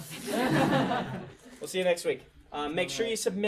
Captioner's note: students laugh